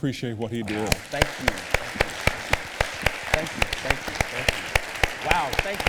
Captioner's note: applause